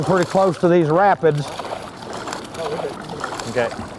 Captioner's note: splashing